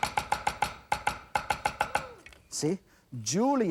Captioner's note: chopping